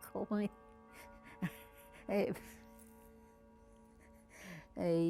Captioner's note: laughing